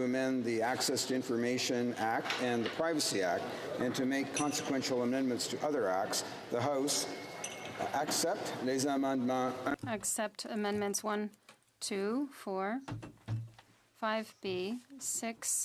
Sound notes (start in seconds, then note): 13.5 speaking French